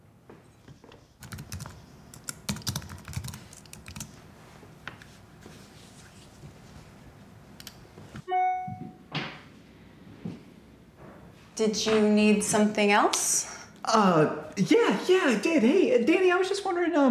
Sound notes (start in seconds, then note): 2.1 typing on keyboard; 8.3 mouse click and e-mail notification chime